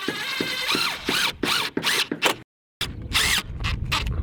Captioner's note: drilling